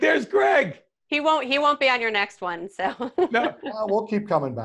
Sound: laughs

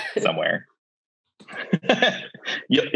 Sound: laughs

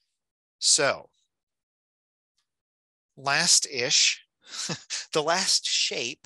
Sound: chuckling

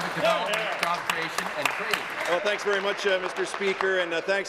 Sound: applause

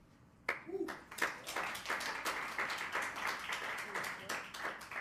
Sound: attendees clapping

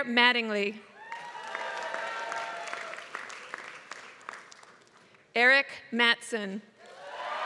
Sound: applause; applause

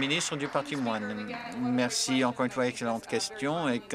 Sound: applause

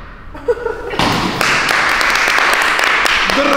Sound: applause

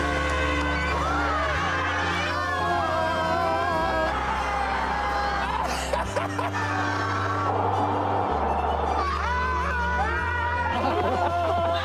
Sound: cheers and music

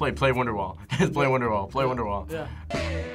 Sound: laughs

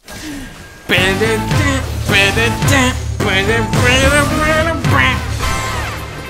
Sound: dunkey humming along to the music

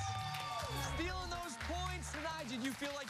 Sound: cheers and applause

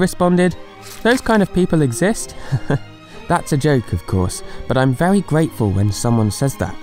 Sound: laughs

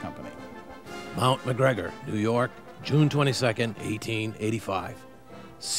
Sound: voiceover

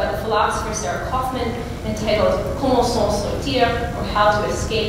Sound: non-english speech

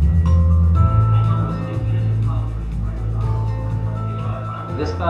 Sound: murmuring

